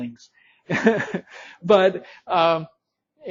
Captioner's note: instructor laughing